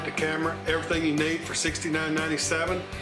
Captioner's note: none